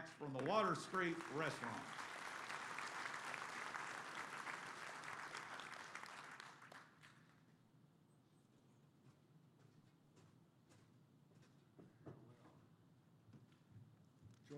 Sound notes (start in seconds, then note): 1.9 applause